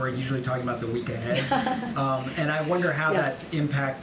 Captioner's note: laughter